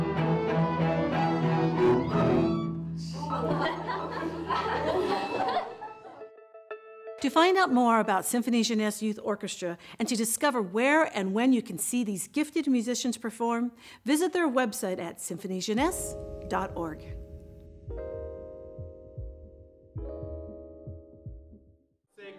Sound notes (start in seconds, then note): 0.0 orchestral music; 3.2 laughter; 17.4 gentle music